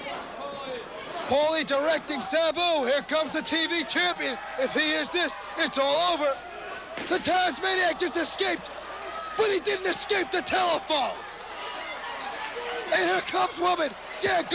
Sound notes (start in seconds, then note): 9.2 crowd cheering